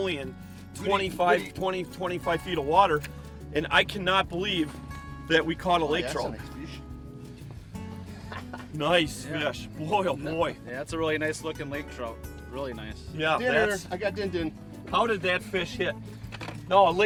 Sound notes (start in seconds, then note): 6.4 laughs